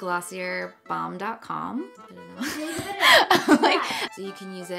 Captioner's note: laughs